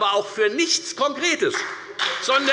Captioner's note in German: Beifall bei der FDP und bei Abgeordneten der SPD